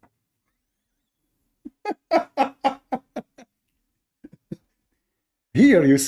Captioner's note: Ketawa